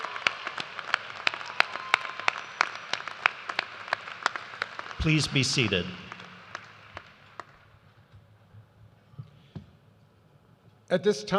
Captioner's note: cheers and applause